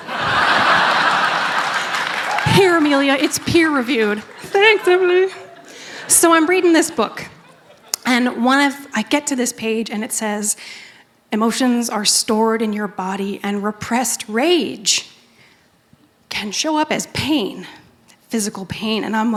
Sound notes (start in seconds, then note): 0.0 laughter; 3.2 high voice